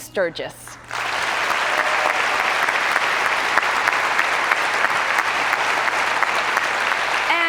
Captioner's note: cheers and applause